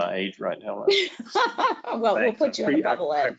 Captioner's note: laughs